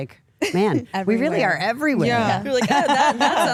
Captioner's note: laughs